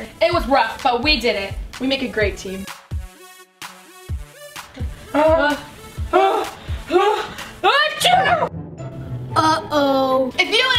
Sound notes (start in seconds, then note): 7.9 both sisters sneezing